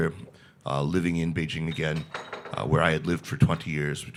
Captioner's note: object thuds